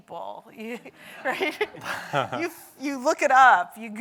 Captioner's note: audience laughs